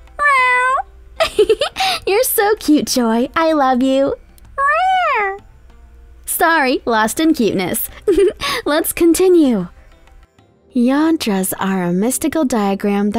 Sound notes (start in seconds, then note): 0.1 meowing; 1.2 laughs; 4.5 meowing; 7.9 giggles